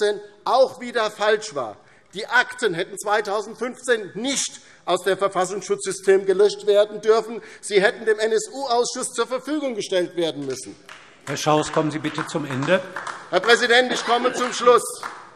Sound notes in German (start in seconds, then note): 10.3 Beifall DIE LINKE